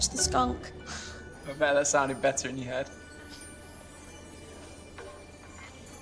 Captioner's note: scoffs